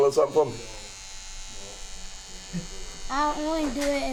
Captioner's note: razor buzzing